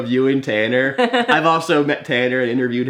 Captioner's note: laughs